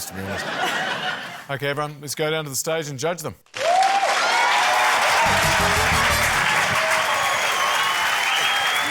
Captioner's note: laughter; cheering, applause